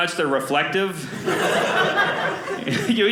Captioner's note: audience laughing